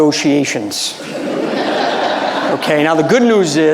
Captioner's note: audience laughing